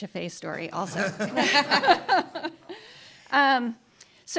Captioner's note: laughter